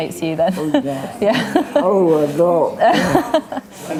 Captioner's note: laughs